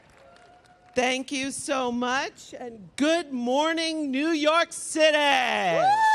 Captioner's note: applause